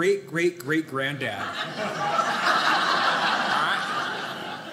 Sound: audience laughing

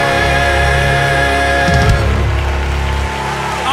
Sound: cheers and applause

